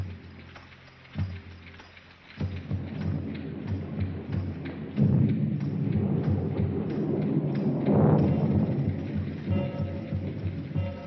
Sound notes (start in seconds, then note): 2.5 thunder grows louder; 9.8 tense music